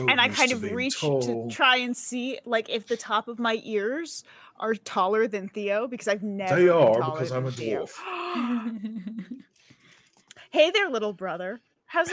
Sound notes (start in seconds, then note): 8.1 giggling